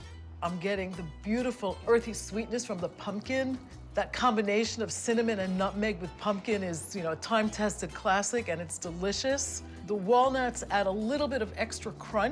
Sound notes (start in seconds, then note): none